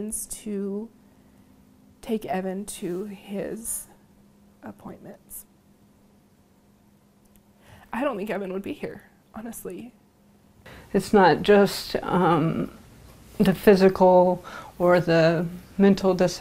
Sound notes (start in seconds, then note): 7.1 tearfully